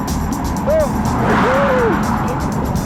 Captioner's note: jeremy yells